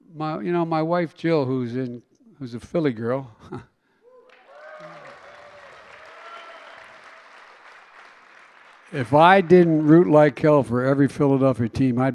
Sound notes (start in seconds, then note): 5.1 laughs; 6.1 applause